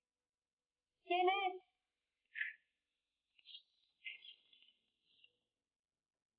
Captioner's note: speaking in foreign language